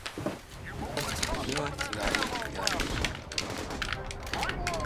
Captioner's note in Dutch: video game noises